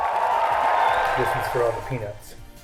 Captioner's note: applause